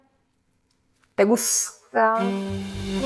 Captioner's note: spanish...ish